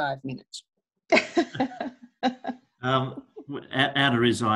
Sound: laughs

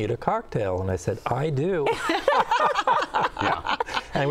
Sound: laughter

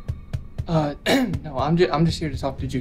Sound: coughs

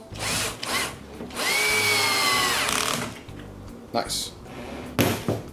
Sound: drilling sound

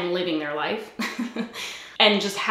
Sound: giggles

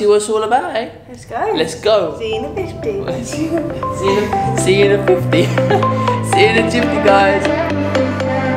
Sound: both laugh

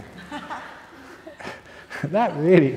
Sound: laughter

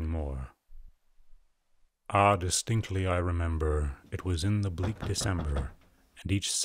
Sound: knocking

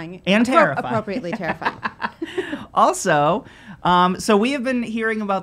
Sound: laughing

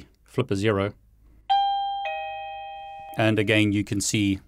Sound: doorbell rings

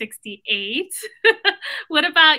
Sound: laughs

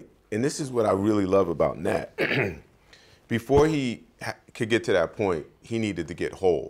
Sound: clears throat

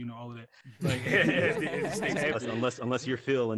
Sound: group laughing

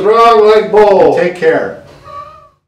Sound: chuckle

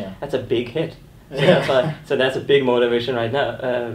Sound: laughing

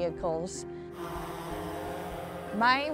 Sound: buzz of drone motor

